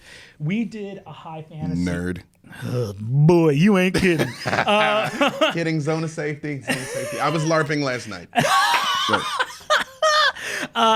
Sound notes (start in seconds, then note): 3.9 laughing; 8.3 laughing